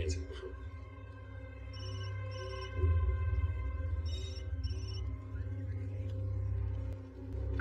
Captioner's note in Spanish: Timbre del celular